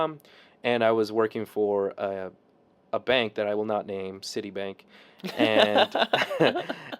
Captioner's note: laughing